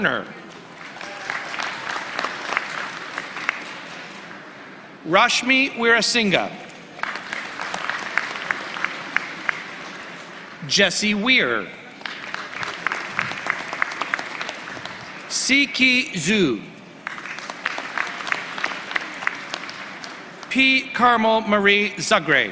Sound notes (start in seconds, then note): 14.1 applause